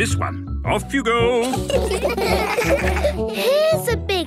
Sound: laughter

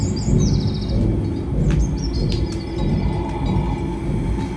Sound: birds chirping

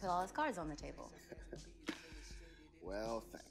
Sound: chuckles

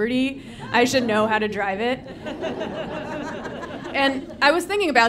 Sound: audience laughing

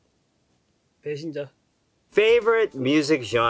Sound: speaking in Korean

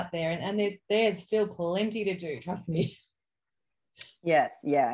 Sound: laughs

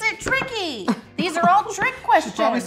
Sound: fakes sobbing

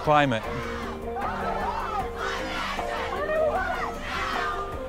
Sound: protest chants

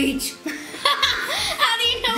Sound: laughs

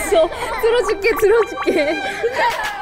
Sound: pat Pat

